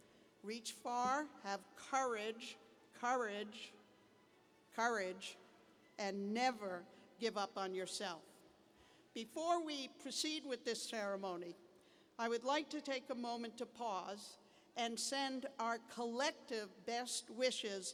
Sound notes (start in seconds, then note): none